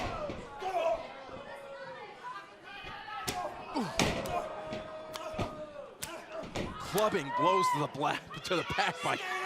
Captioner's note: crowd chatter